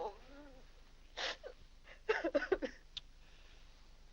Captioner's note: weeping